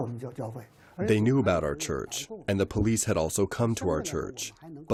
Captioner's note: through translator